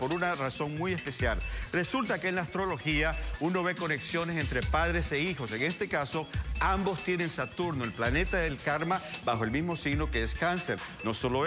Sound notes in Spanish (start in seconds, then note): none